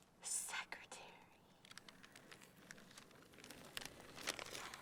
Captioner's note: whispers